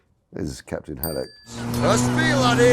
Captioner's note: bell chimes